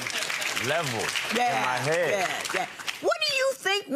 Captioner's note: audience applause